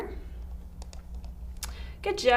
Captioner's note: mouse clicking